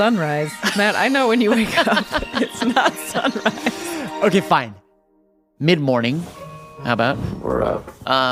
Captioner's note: laughs